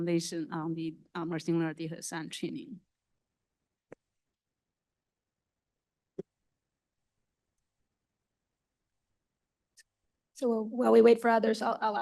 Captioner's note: pause